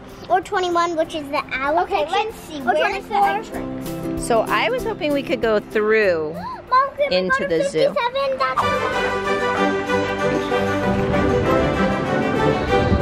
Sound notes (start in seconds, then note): 6.3 gasps; 9.7 jaunty music plays